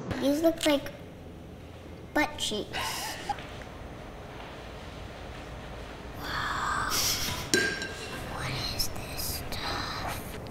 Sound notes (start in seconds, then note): 2.9 laughing